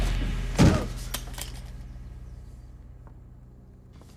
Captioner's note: dramatic music; body thuds